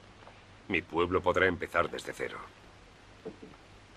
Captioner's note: none